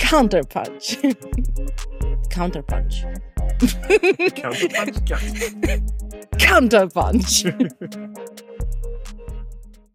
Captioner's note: laughing